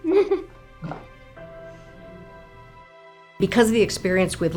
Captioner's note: laughs